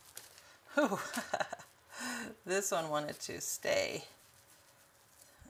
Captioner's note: laughs